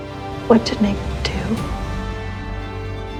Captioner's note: voiceover